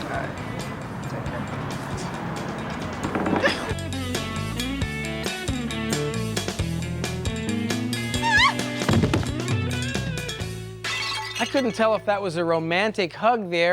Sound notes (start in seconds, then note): 0.0 upbeat music; 3.5 upbeat music; 8.1 shrieks